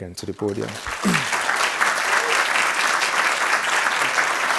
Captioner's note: crowd applauding